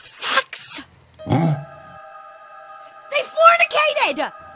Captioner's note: Lumber Axe groaning